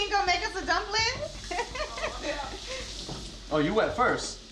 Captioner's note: laughing